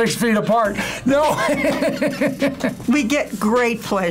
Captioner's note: laughs